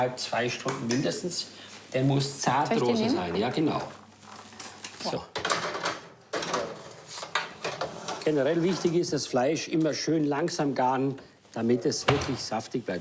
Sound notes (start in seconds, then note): 8.2 speaking foreign language